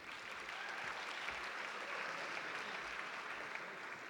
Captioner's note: audience applauding